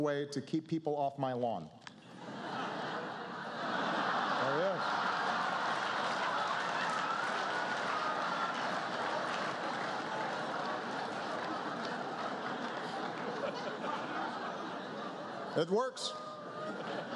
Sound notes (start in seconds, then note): 10.1 laughter